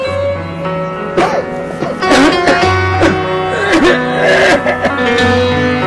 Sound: people coughing

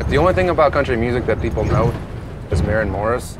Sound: engine rumbling

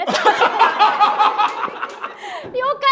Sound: laughter

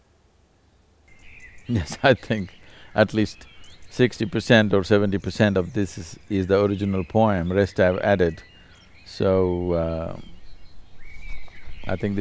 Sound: laughs

